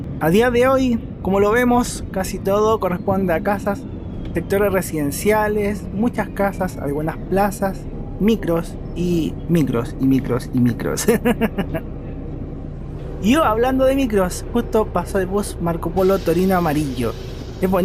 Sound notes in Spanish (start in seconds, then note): 11.0 risas